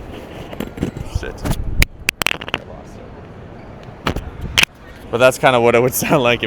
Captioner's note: microphone clatters